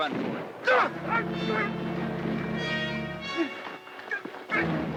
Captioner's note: Greer grunts